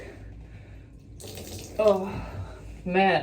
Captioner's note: water pouring